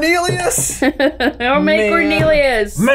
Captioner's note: laughing